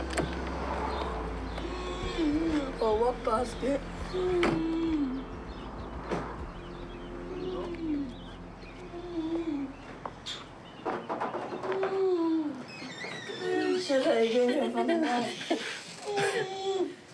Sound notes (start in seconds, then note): 11.0 knocks on door